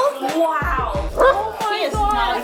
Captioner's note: dog barks